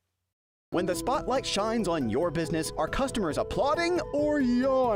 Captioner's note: voiceover